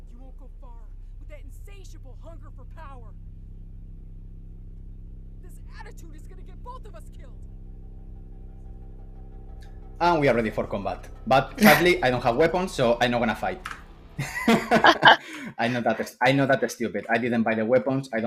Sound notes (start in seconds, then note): 14.2 laughs